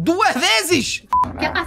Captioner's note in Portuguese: som de bipe